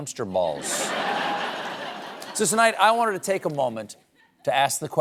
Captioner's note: laughter